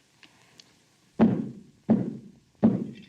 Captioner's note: stomps foot; clatters